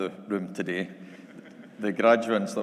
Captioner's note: audience laughing